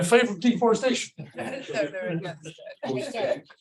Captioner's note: audience laughs